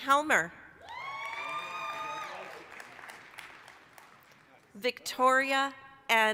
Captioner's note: applause, cheering